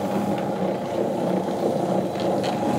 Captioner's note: deep whirring